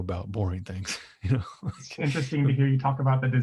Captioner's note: laughs